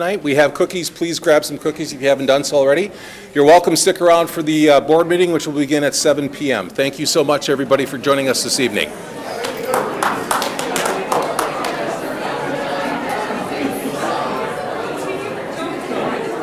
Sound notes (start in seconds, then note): 8.8 people clapping; 12.3 people talking loudly